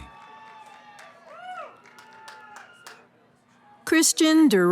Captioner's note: cheering